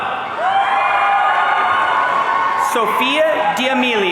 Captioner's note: audience cheering